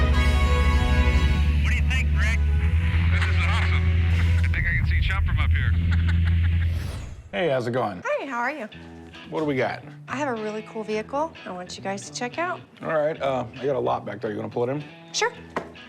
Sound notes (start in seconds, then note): 5.6 laughs